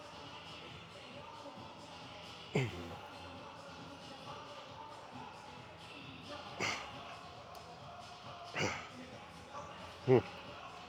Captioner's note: grunting